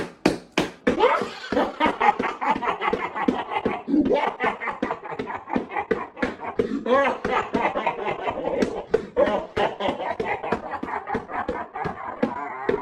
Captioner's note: clapping; claps + laughs